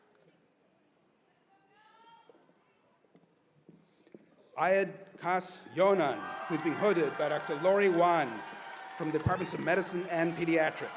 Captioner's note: cheers and applause